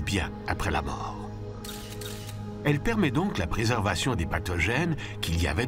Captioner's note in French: clics de caméra